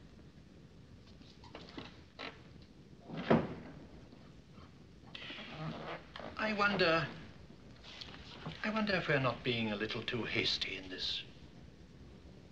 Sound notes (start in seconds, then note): 3.0 drawer Closes